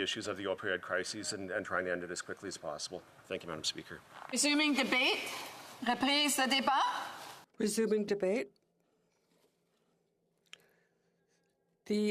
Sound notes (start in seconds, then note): 10.2 speaking French